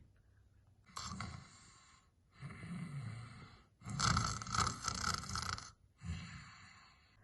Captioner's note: snoring